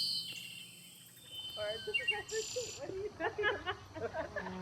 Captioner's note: distant laughter